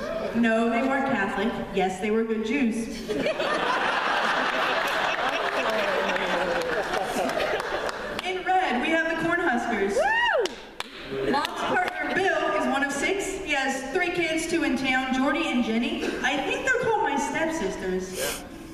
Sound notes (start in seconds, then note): 3.0 laughter; 9.9 cheer from audience